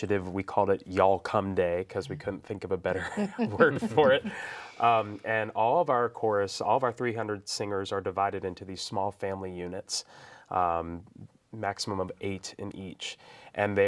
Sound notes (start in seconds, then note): 3.0 groups laughs